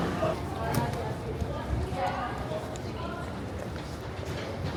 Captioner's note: people chattering